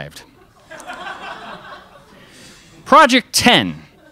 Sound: crowd laughs

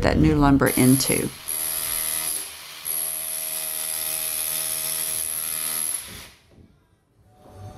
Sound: drilling

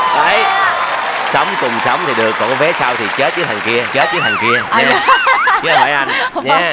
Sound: laughing

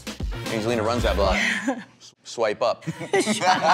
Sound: Angelina laughs

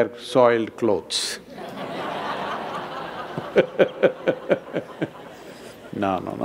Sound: laughter

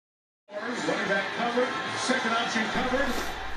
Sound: football announcers talking

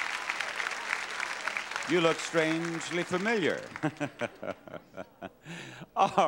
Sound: audience applauding; laughing

